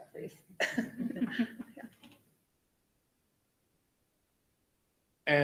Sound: members laugh

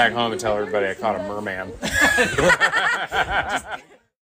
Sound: laughs

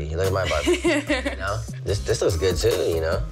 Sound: laughs

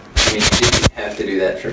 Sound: rustling

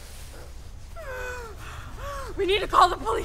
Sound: Sheila sobbing

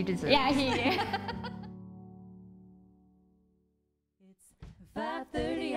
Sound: laughter

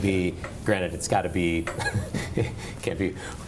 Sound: laughs

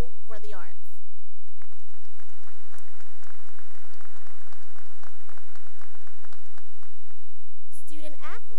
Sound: applause

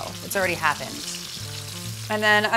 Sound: sizzling

